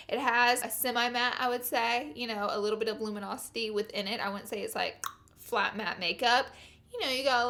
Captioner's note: tongue click